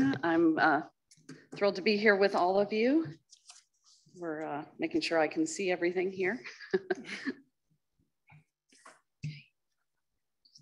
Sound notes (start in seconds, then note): 6.5 chuckles